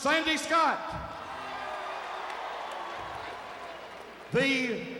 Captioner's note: crowd cheering; crowd applauding